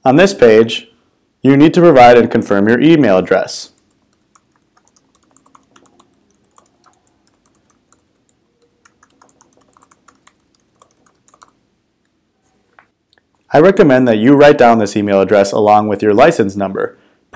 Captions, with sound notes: On this page, you need to provide and confirm your email address. [Typing] I recommend that you write down this email address along with your license number,